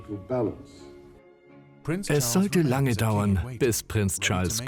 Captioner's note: voiceover